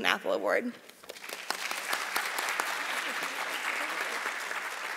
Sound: audience applauding

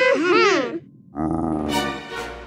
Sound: roaring

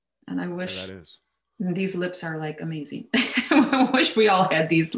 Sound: laughs

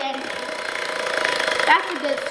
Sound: wheel spinning

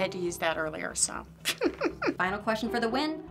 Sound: laughing

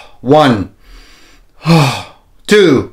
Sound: exhales; inhale and exhales

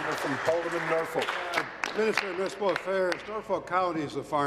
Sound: applause

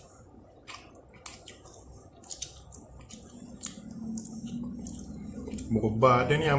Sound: slurp chkup chkup chkup chap chkap chkap

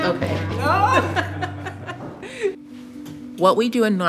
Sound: laughter

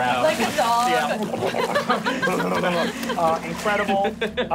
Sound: laughing

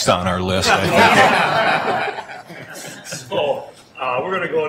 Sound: everyone laughing

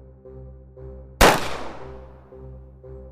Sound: gunshot noise

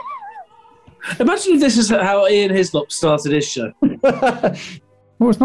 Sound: sniggering; laughing

